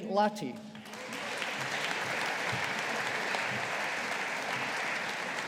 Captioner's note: audience applauding